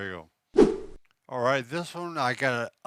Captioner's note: whooshing noise